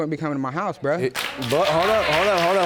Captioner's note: audience applauding